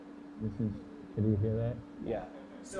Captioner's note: low mumbling